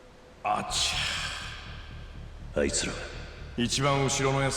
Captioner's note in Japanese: ため息